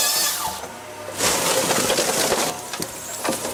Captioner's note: saw buzzing